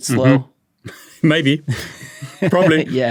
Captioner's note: chuckles